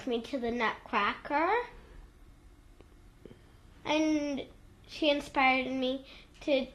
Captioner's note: pauses for 3 seconds